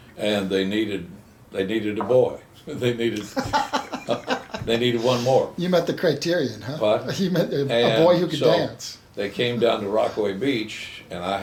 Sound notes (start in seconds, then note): 3.2 chuckles